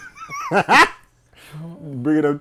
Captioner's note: laughing